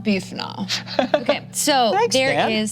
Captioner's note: laughs